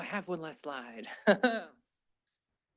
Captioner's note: laughs